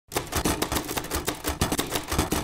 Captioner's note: typing